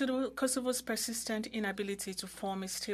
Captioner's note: speaking French